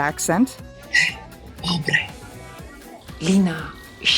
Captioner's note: Phryne in a bad spanish accent